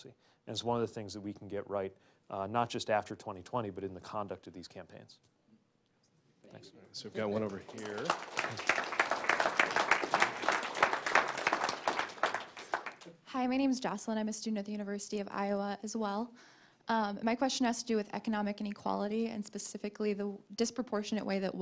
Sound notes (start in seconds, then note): 7.1 applause